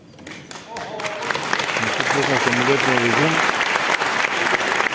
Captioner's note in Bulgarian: аплодисменти